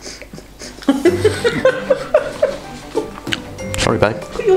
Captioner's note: laughs